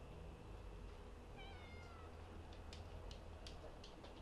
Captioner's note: cat meowing